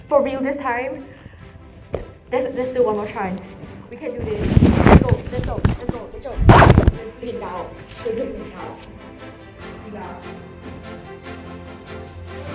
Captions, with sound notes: for real this time. There-There's still one more chance. We can do this. Let's go. Let's go. Let's go. Rachel. (Violent mic noises) We're doing it now! We're doing it now! We are-